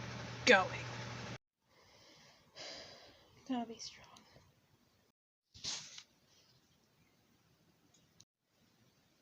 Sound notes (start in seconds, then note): 1.7 exhales